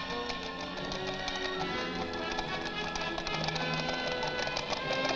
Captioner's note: hooves galloping